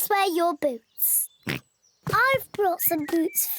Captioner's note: oinks